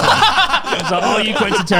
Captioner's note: all laughing